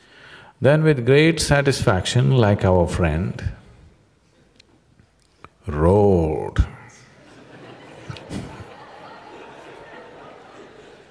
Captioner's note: laughter; 笑聲